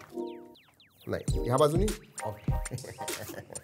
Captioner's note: laughs